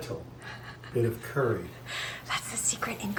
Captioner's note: laughing